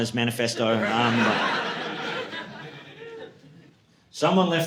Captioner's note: audience laughing